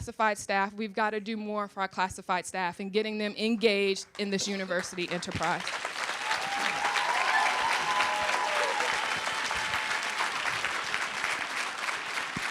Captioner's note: applause